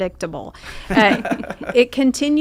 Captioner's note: laughing